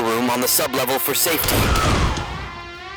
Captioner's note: scream! Gunshots